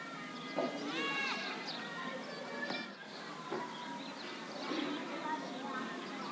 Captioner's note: distant chatter